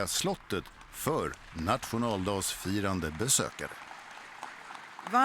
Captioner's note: applause